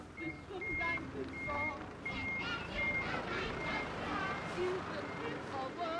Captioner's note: truck beeping